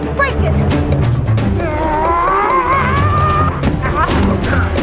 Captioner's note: yells; tense music continues